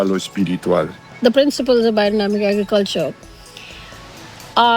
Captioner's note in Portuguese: em inglês